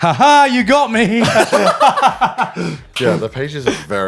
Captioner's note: laughing